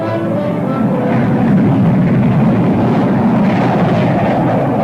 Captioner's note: plane engines revving